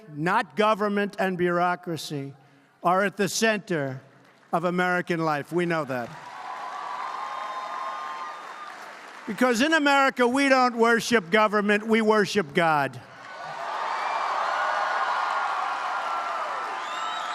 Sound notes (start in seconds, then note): 7.3 applause; 12.7 applause